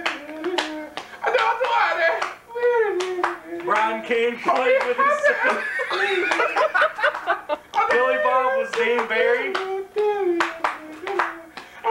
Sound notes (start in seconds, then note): 4.9 laughter